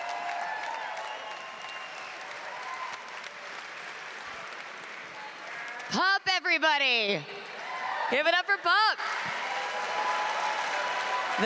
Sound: applause

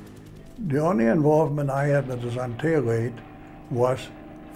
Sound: helicopter sounds

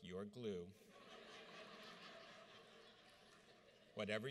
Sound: audience laughs

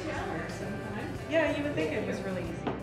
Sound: none

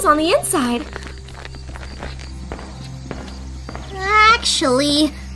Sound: footsteps on dirt, then stone

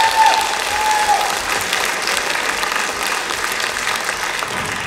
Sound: applause

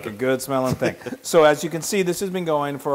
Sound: laugh

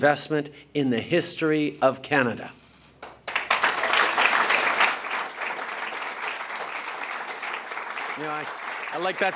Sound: applause

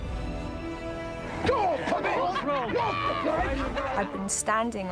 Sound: all shouting

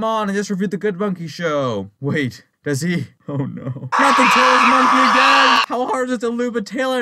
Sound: in super meek voice

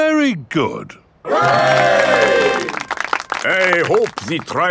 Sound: clapping

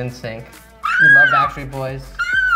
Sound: yells

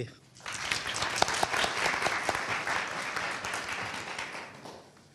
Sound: audience applauding

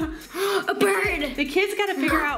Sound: gasps

